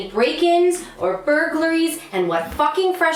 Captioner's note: door opens